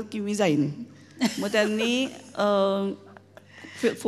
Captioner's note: interviewers chuckle